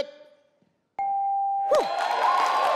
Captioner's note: bell rings; audience cheers; clapping